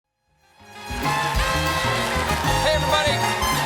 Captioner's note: band playing; cheers and applause